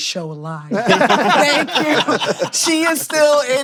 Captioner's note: laughter